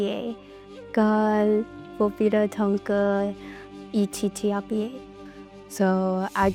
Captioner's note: speaking in Dakota language